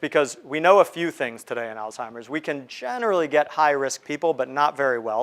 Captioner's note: none